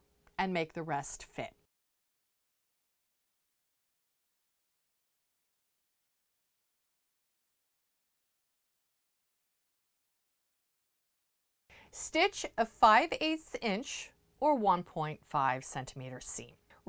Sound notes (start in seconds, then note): 1.6 no Sound Present